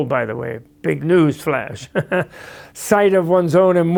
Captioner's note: laughs